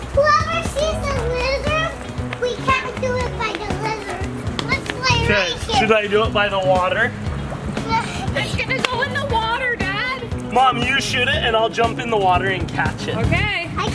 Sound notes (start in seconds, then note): 4.9 water babbling; 7.8 laughs